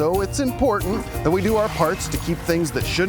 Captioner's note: toilet flushing